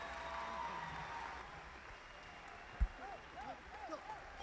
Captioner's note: audience applauding